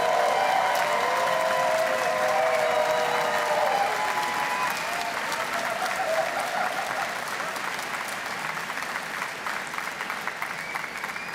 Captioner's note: cheers and Applause